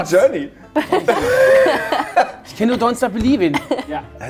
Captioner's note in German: Lachen